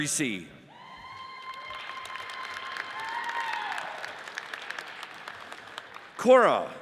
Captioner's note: audience cheers and applauds